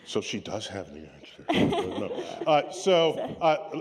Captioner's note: laughter